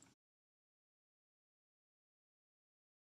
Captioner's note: film--no sound